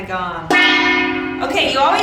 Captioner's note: gong dinging